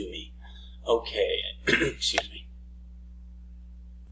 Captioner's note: clears throat